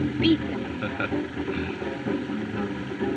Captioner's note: chuckles